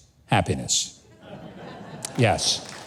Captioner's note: audience laughing